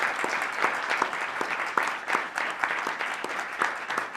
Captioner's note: applause